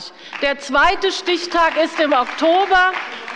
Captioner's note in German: Beifall bei der CDU und dem BÜNDNIS 90/DIE GRÜNEN